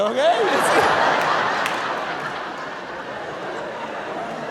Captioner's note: audience laughing